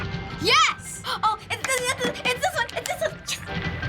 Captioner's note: gasping; playful music